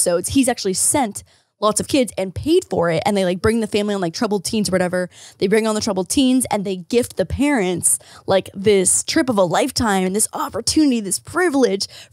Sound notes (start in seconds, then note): none